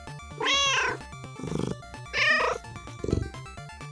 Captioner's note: meow